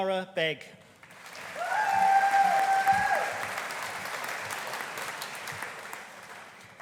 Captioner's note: audience applauding; audience cheering